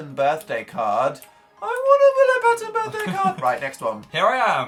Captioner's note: wailing